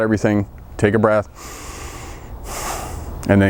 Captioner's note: breath